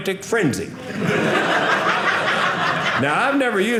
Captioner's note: audience laughing